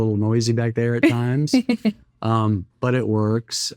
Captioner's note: laughing